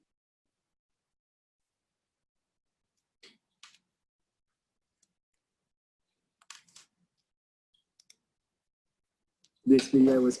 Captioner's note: pause